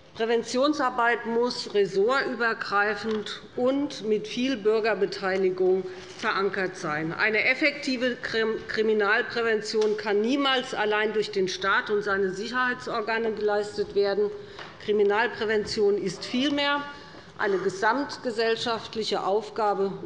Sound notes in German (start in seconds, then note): none